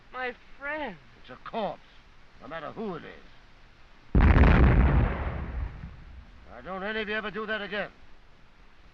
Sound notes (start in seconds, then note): 4.1 explosions continue